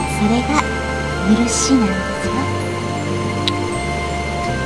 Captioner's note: rain